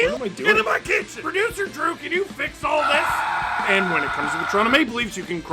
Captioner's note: screaming